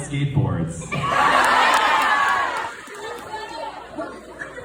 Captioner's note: audience cheers